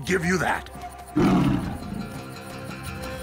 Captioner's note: roars